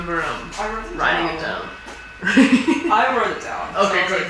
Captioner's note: laughs